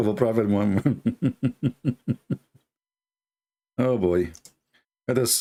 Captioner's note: Ketawa